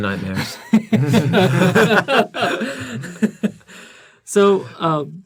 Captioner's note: laughter